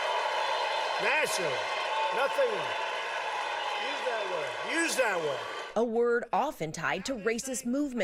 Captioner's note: applause